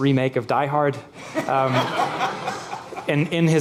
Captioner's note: audience laughs